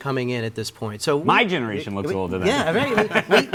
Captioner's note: laughs